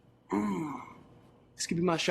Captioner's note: he groans